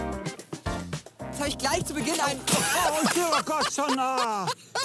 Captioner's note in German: beide lachen